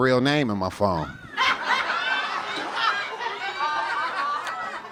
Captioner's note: audience laughing